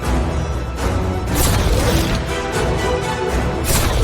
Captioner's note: cannon Fire